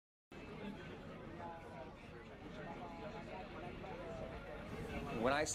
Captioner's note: chatter